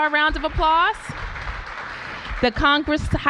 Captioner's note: applause